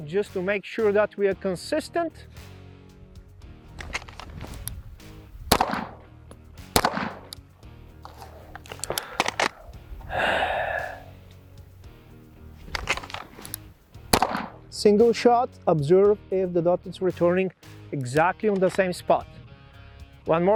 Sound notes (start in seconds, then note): 3.8 holster rattles; 5.4 gun popping; 8.0 holster clicks; 12.6 holster rattles; 13.9 gun pops